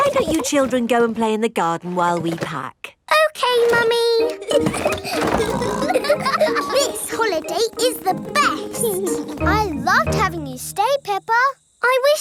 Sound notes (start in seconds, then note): 4.3 laughing and snorting